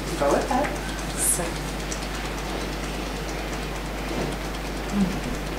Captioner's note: tapping fingers